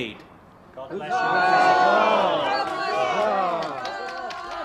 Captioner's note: crowd cheers